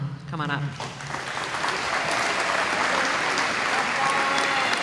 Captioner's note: applause